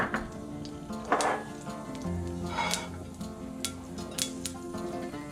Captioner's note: mustard seeds "pop" in hot oil